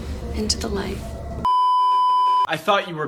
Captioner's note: beeeeeeeeeeeep